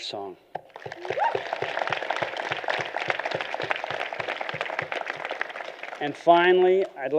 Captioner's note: applause